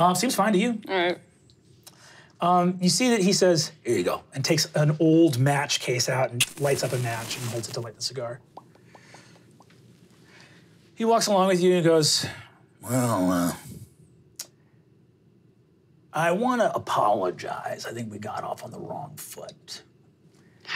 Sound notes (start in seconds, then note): 6.4 match igniting